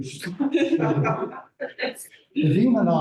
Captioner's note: laughter